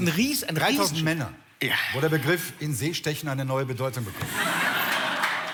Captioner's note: in German: sexual innuendo